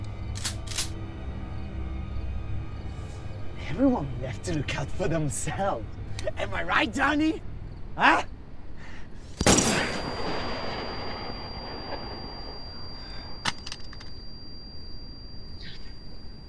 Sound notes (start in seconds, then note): 0.1 gun clicking; 9.3 gun firing; 13.4 gun clattering